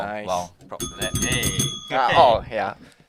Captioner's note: ring ring ring